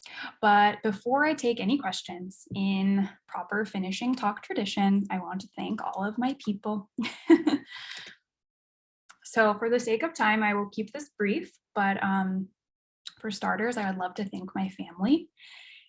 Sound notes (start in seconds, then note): 7.0 chuckles